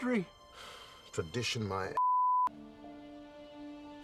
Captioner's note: sighing